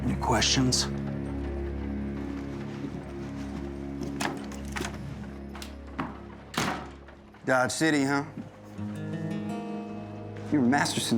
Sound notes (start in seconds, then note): 1.2 footsteps; 4.0 door opens, closes